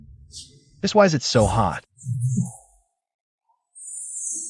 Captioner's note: hiss